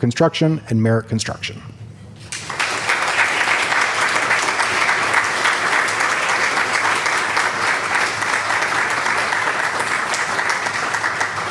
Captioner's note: applause